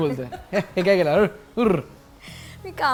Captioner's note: chuckles